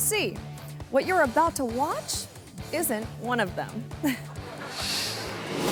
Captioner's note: giggles; audience laughing